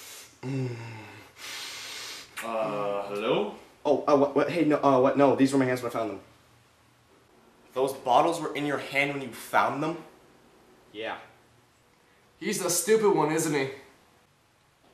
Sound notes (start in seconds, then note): 1.2 sniffing; 3.8 stumbling over words